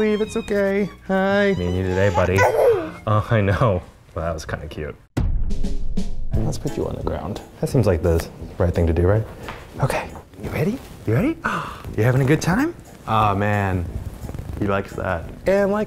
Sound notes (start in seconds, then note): 2.1 coos